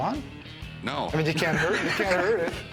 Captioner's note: laughs